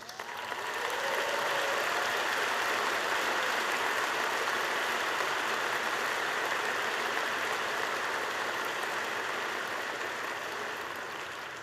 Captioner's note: applause